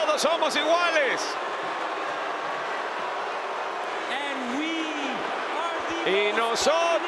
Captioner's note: applause